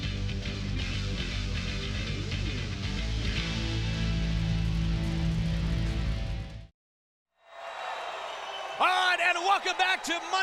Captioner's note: crowd cheering